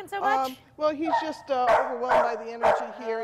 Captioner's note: dog barking